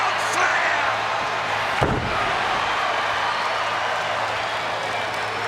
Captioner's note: audience cheers